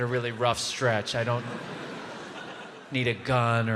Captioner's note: audience laughs